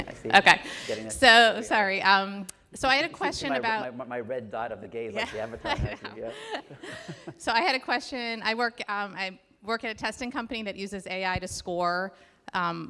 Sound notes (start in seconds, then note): 5.1 laughs